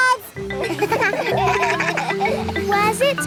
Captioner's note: kids laugh